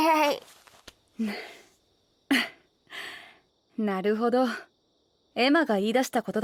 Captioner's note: smiles then chuckles